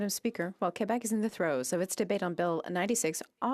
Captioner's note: speaking French